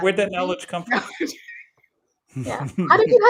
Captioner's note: laughs